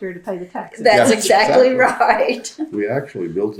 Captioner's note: laughs